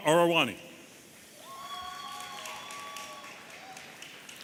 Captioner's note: audience cheering